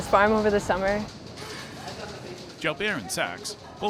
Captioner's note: people chattering